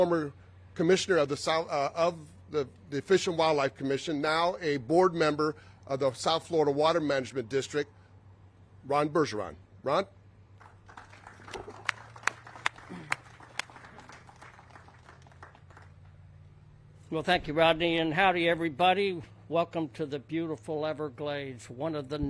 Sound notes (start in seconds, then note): 10.5 all clapping